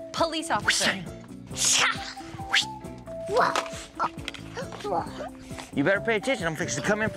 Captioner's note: fighting sounds